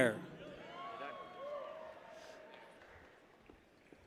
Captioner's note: people cheer